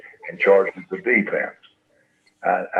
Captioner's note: none